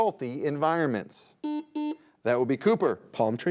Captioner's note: buzzer beeps